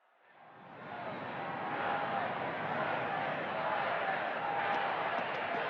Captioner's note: crowd chanting